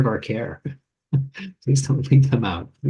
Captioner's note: chuckles